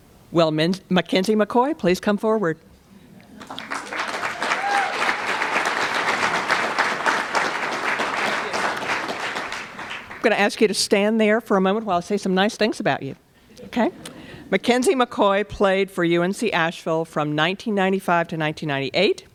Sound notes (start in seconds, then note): 3.4 applause